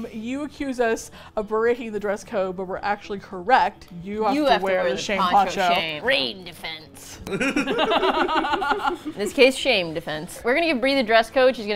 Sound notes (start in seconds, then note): 7.3 all laugh